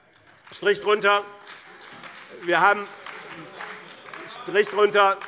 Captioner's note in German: Beifall bei dem BÜNDNIS 90/DIE GRÜNEN und der CDU - Widerspruch bei der SPD